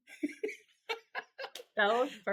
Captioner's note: both laughing